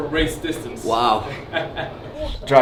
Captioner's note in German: Lachen im Hintergrund